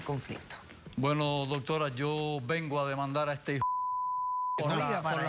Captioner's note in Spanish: Bip